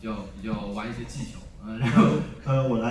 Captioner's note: laughs